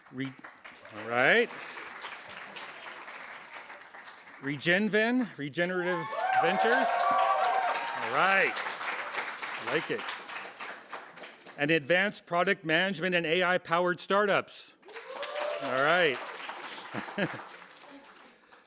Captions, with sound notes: [APPLAUSE] --RegenVen, Regenerative Ventures-- [APPLAUSE] --I like it, and Advanced Product Management and AI-Powered Startups. [APPLAUSE]